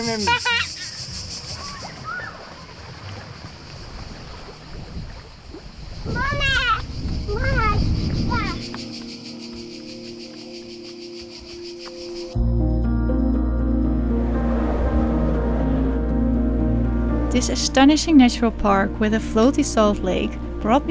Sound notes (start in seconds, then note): 0.0 laughs; 7.0 yells